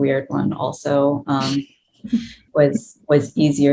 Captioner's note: chuckles